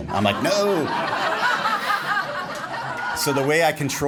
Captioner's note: laughing